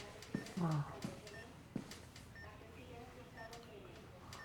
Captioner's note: Florio moans almost silently; the sound of steps